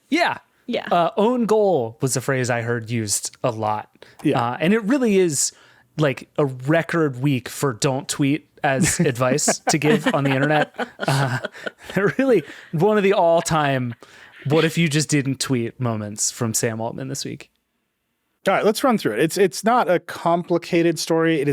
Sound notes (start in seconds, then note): 10.8 group chuckling